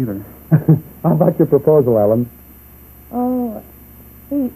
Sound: laughing

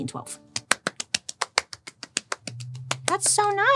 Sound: applauding

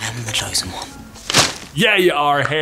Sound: newspaper crinkles

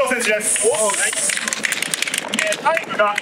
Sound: clapp

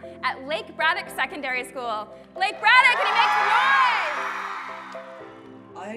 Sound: cheering

